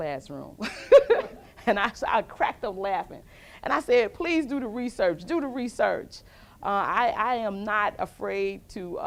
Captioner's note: laughs with audience